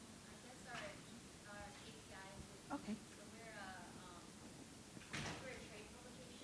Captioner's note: faintly speaking